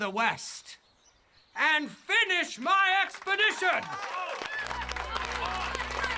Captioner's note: loud cheering